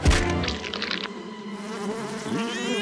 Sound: bees buzzing

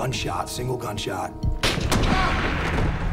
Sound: gunshot

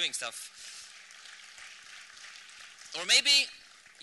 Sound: applause

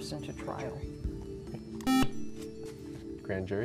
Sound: buzzer

